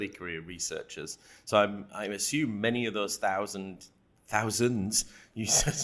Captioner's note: laughing